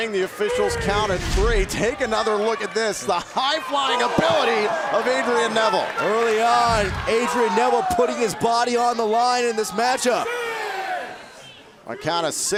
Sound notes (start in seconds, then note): 1.8 cheers & applause